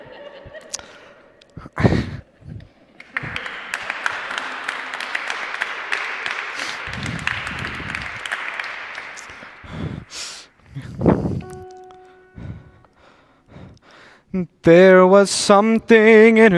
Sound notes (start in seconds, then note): 2.9 applause